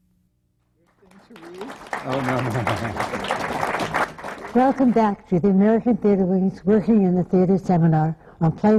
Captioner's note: applause